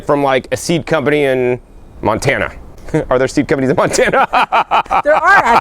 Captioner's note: laughter